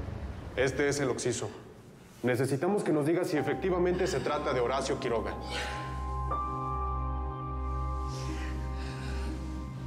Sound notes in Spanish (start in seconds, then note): 5.3 sollozos